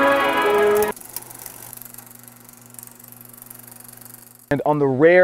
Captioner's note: old film projector